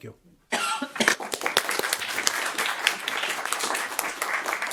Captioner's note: audience clapping